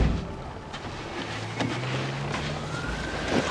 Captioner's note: car engines starting